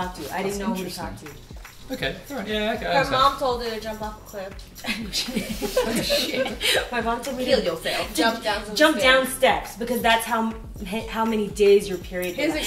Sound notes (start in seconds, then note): 4.8 laughter